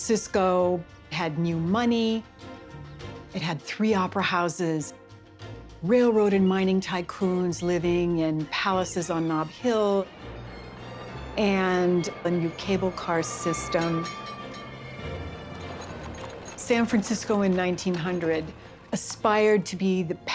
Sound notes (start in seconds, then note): 13.6 cable car bells clanging